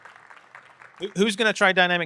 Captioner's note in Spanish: aplausos